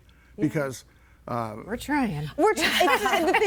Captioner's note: laughs